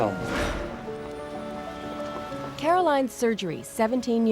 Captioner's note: whoosh